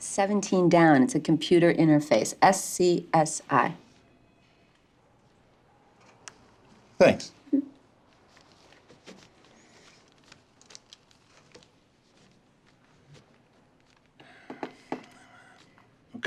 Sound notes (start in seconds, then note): 9.3 pencil scratching